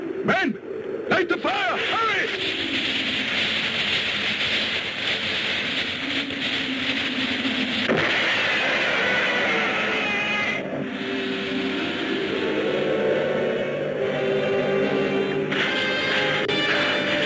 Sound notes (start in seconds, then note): 2.3 fire hisses; 7.9 Gammera screeches; 8.2 explosion booms; 14.4 dramatic music